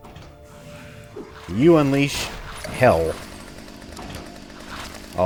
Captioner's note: jackhammer revving